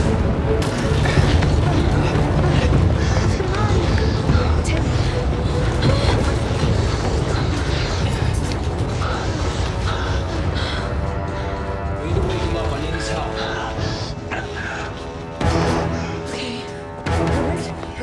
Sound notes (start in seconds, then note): 5.7 gasping; 13.5 gasping